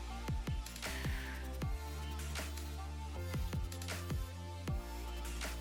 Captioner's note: exhaling